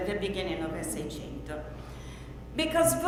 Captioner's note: speaks in foreign language